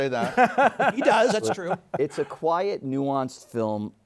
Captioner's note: laughs